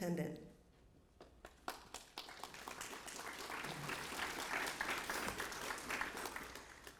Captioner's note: applause